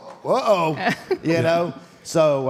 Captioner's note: laughs